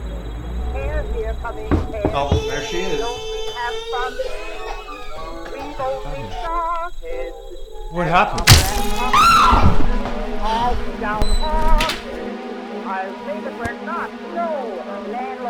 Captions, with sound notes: (person knocks on door) Oh, there she is. (baby crying) - Abner? What happened? (ax thwacks) (Betty screams) (suspenseful music)